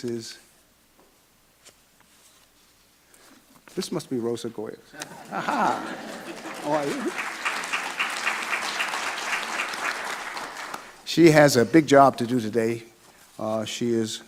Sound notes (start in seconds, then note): 4.9 laughs; 8.7 audience clapping